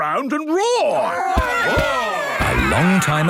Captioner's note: all roaring